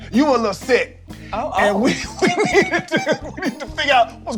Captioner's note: laughs